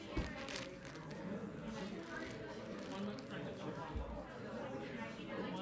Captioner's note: people chattering